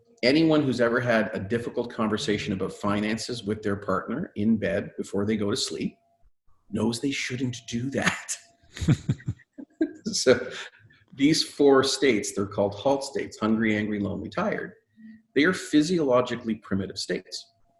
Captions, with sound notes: Anyone who's ever had a difficult conversation about finances with their partner in bed before they go to sleep knows they shouldn't do that. (laughing) So these four states, they're called HALT states, hungry, angry, lonely, tired, they are physiologically primitive states.